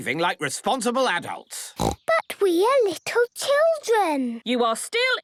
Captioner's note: snorting